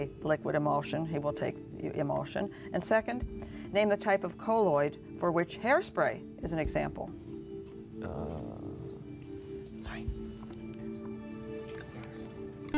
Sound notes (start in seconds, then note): 8.5 whispering; 11.8 buzzer